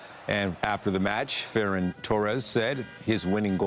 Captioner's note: applause